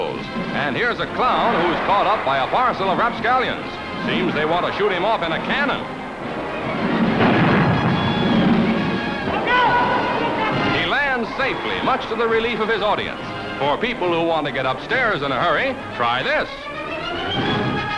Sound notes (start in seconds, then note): 6.5 explosion